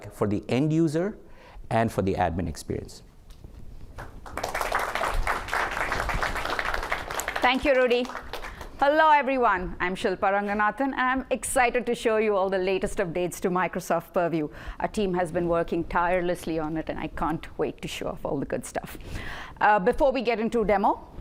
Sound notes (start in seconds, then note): 3.9 applause